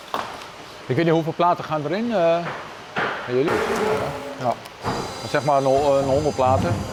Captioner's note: speaking Dutch